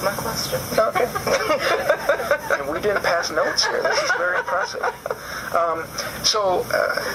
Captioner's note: laughs